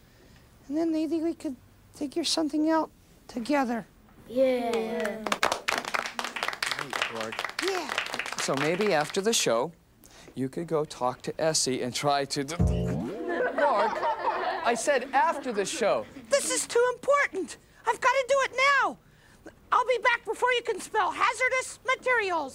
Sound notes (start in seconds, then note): 5.0 applause